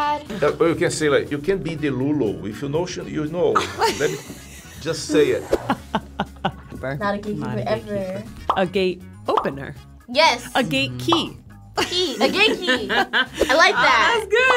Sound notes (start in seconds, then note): 4.9 chuckles